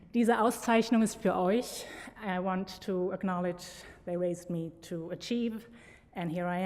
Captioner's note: foreign language